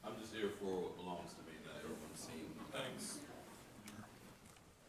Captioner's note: speaking faintly off mic